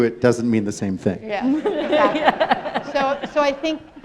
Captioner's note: audience laughs